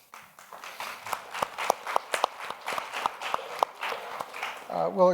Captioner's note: audience applauds